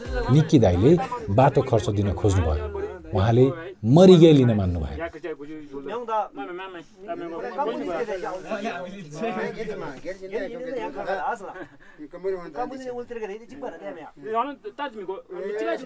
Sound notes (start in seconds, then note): 5.5 tibetan conversation